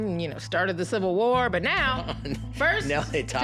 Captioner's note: chuckles